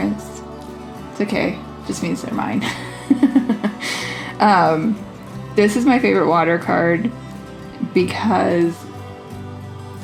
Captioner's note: laugh